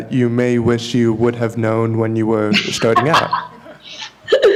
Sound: laughter

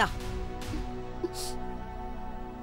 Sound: sniffles

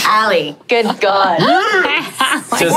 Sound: imitating Ally's noise

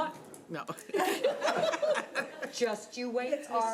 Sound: people laughing

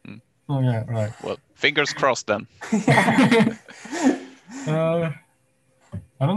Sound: laughs

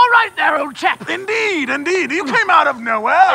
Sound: in burly British accent; in burly British accent

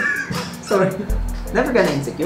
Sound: laughs

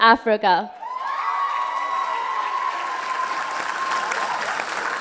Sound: applause and cheers

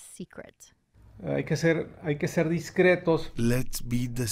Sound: speaking Spanish

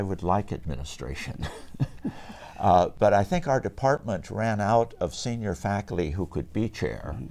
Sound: chuckles

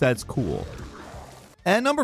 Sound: splashing

